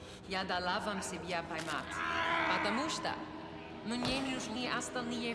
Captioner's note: Maeve speaking in a foreign language